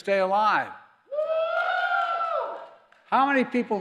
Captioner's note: applause